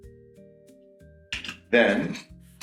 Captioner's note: cap clicking